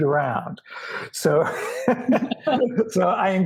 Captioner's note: laughs